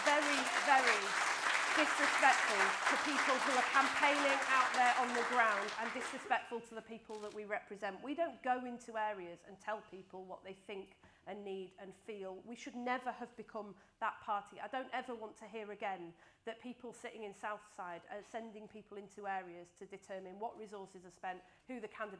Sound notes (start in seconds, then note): 7.5 applause